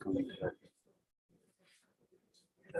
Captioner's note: indistinct conversation